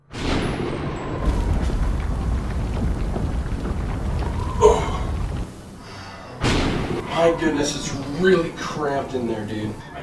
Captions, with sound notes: (thunder) (wind blowing) (distant banging) - Oh goodness, it's really cramped in there dude.